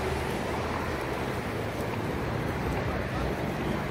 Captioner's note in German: Auto-Verkehrslärm